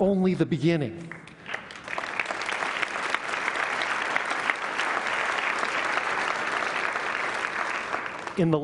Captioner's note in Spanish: Aplausos